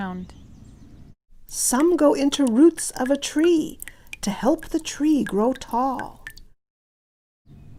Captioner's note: dripping sounds